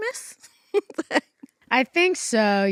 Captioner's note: chuckles